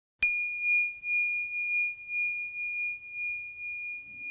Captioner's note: bell dings